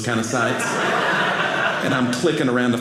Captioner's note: audience laughing